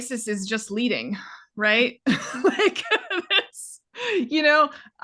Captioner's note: both laughing